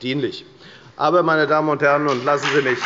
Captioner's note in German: Beifall bei der FDP